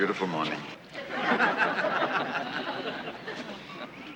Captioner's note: laughter